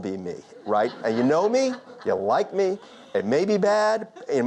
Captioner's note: audience laughter